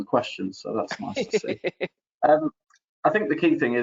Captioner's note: laughing